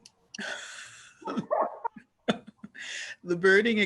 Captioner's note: panel laughing